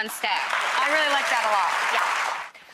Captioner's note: applause